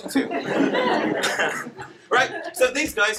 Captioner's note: laughter